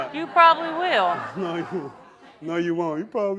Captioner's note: laughing